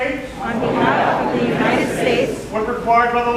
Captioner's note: crowd